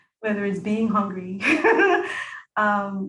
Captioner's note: laughing nervously